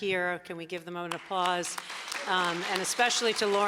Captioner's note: audience applauding